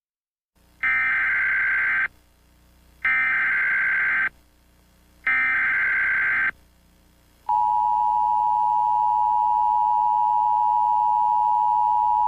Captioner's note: EAS Tones